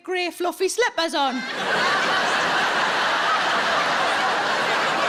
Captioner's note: audience laughs